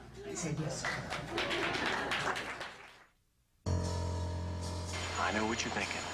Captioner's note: guests applauding